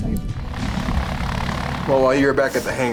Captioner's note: plane propeller whirs